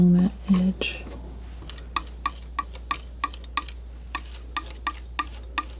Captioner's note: scratching